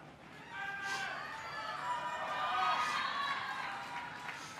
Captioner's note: crowd cheering